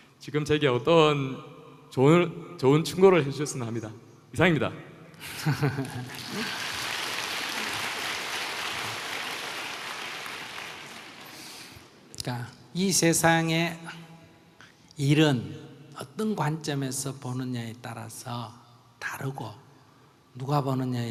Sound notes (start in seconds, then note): 5.2 laughter/Audience Applause